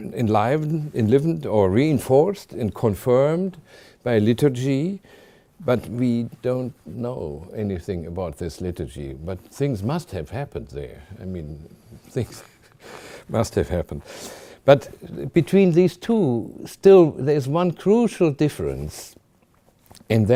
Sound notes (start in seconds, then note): 13.8 chuckling